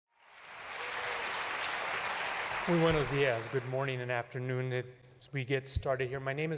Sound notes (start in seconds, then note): 0.0 applause